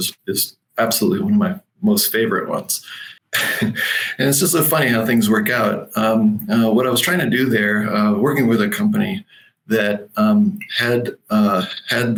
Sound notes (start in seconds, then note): 2.8 chuckles